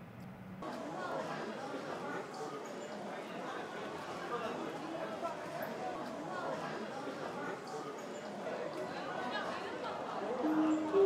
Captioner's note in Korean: 시끄러운 사람들 소리